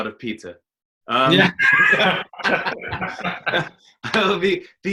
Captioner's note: laughter